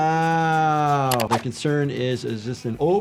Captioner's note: keyboard clicking